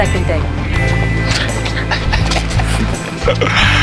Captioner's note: laughing